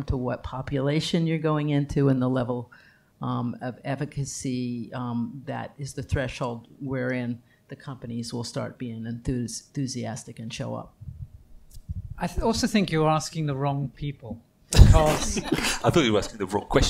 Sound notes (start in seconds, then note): 14.9 laughter from panel